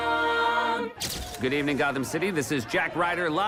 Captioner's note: cameras flashing